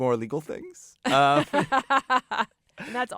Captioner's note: laughter